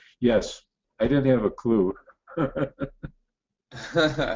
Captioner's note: laughs